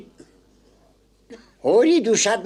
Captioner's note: cough